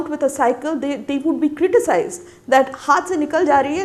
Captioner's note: speaking Hindi